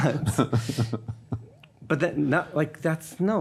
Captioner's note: laughing